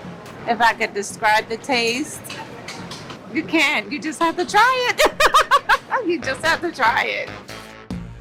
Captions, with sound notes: - If I could describe the taste, you can't, you just have to try it. (laughs) You just have to try it.